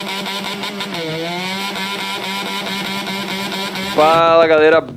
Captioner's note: motorcycle rumbling